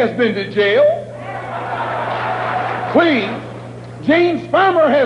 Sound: applause

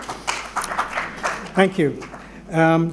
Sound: applause

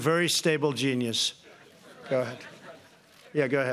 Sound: laughter

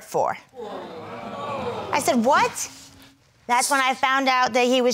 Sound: crowd gasping

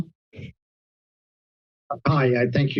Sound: silence

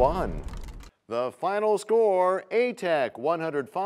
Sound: crashing sound

